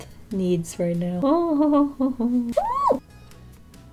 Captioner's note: squeals